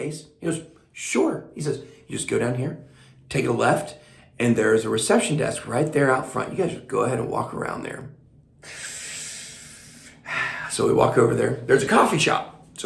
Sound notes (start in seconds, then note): 8.6 breathes deeply